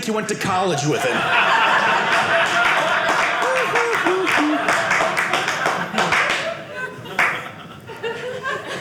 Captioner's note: audience applauding